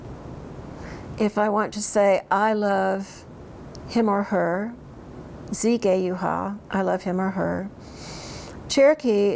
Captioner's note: speaks in Cherokee; speaks in Cherokee